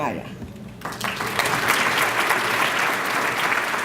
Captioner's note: applause